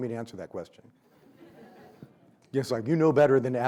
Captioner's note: audience laughs